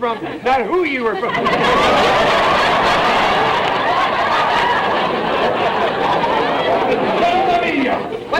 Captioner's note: audience laughter